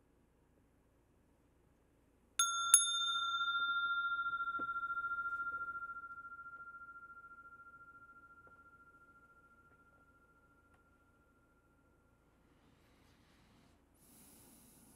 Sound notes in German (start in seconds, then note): 2.4 Mooji klingelt die Glocke